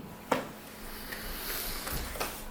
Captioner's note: inhaling; light clapping